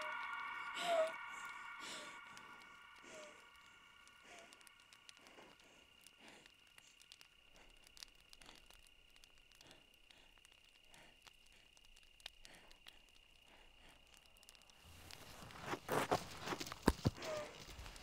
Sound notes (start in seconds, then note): 0.0 Brigit panting; 5.5 crickets chirping; 5.5 flames crackling